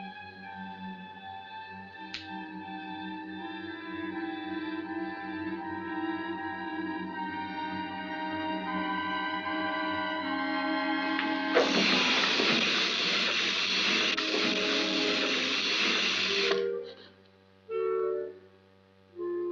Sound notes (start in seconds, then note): 11.5 doll crawls and makes a dragging sound